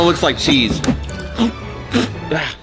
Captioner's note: spits